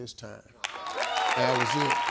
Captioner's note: audience cheers